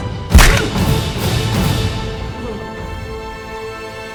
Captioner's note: punch thudding